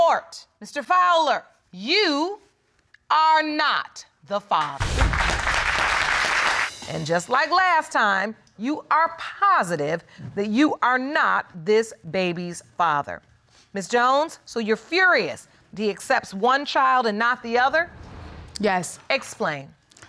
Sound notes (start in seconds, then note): 4.7 audience applauding